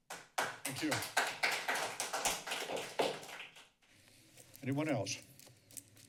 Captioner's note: applause